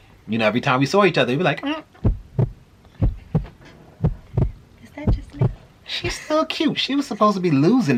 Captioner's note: heart beating